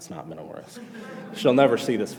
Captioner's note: class laughs